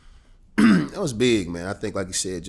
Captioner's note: clears throat